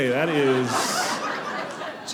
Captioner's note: audience laughing